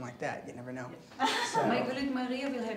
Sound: lauren laughing

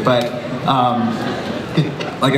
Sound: audience laughs softly

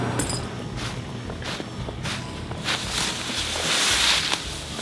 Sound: feet stepping

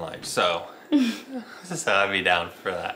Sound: giggles

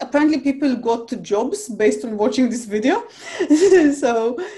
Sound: chuckles

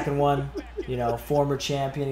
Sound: laugh

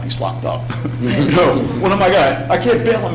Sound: laughter

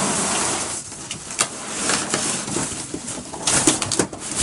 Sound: cardboard scrapes

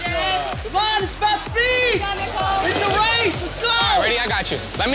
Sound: on-lookers yelling

